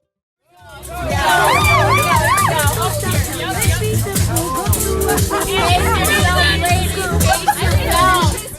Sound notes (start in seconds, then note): 0.7 women chattering; 0.8 woman shouting; 5.5 funky dance music